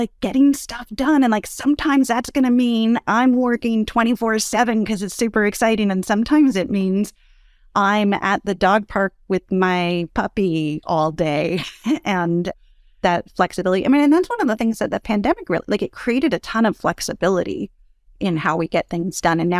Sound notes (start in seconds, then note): 11.6 laugh